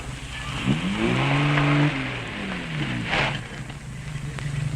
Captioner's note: engine revving